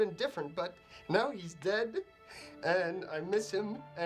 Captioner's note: voice breaks